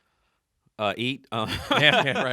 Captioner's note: laughs